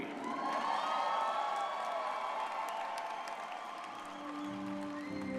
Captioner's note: audience cheering and applauding